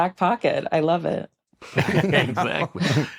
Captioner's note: laughter